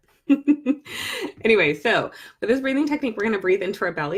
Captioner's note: laughs